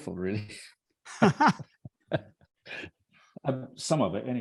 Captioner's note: laugh